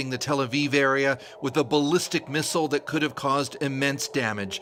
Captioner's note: sound of siren